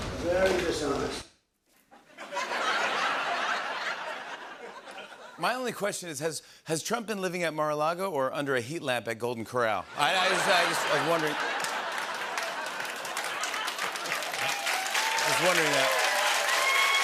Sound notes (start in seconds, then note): 2.0 laughter; 9.9 laughter; 11.9 laughter and applause